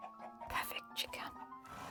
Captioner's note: whispers